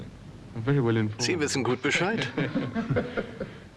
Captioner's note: laughs